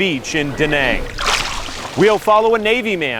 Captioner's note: water splashing